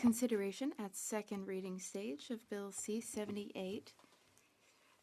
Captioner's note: speaking French